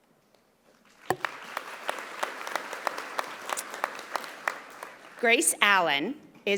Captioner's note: audience applauding